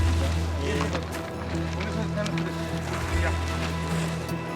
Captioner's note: Spanish language